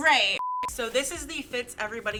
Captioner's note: beep